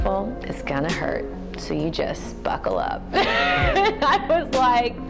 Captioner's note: laughs